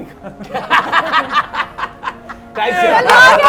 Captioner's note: laughs